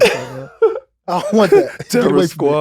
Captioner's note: laughing